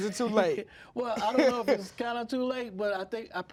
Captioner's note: laughing